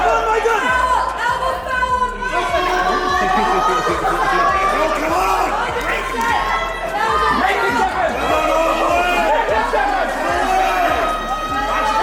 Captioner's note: belligerent Audience Noises